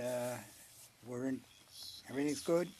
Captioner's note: speaking French